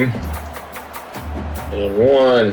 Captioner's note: crowd Noises